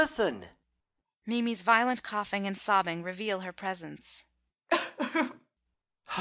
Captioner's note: _Mimi's violent coughing and sobbing reveal her presence._